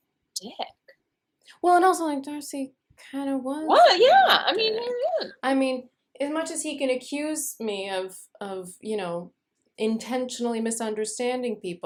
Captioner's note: mumbles agreement